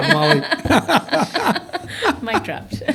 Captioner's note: laughter